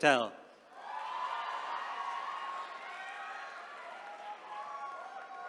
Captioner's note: attendees cheering